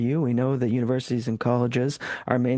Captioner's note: speaking French